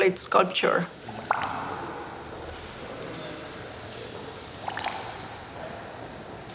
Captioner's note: dripping continues